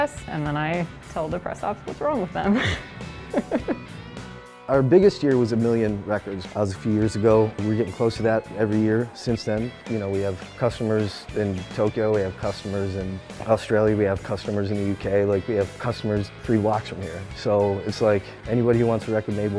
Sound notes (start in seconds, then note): 2.4 laughs